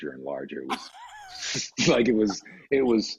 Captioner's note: laughs